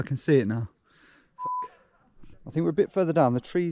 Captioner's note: beep